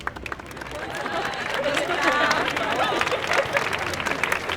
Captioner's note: applause continue